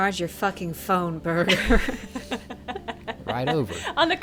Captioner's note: laughing